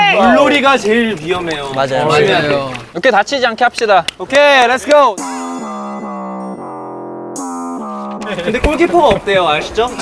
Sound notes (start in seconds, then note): 0.6 bubbling